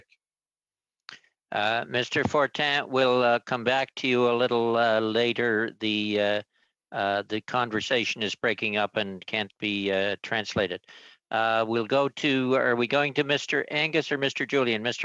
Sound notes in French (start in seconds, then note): 4.0 voix de l'interprète